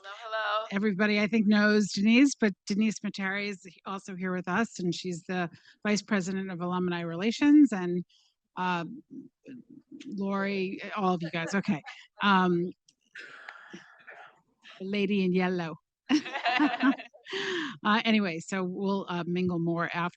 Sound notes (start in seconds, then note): 16.1 participants laughing